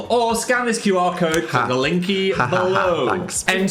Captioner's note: Dan laughs sarcastically